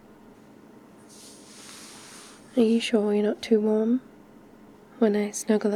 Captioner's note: shuffling